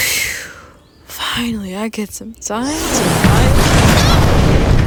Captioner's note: crash